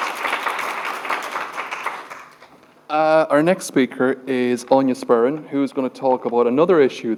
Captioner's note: applause